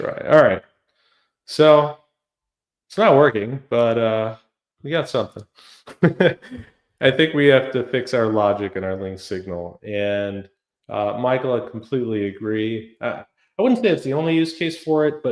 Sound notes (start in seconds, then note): 5.8 laughs